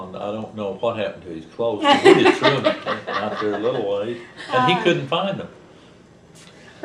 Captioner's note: laughter